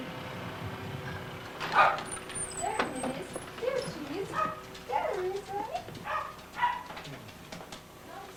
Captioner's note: dogs barking